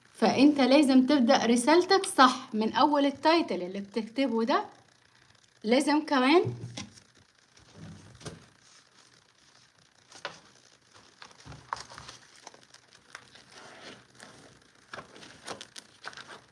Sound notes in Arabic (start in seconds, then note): none